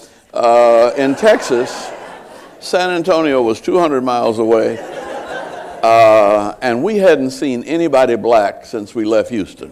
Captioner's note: laughter